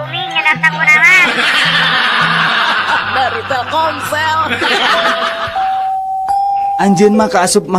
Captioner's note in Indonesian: tertawa